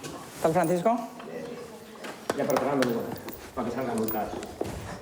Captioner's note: speaking foreign language